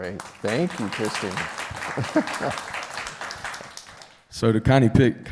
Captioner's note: applause